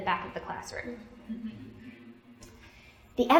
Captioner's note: laughter